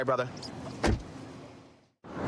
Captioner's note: door shuts